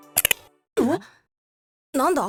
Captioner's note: alert